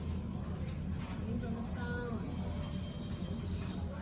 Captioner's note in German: Telefon klingelt